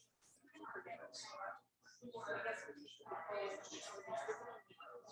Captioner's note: people chattering indistinctly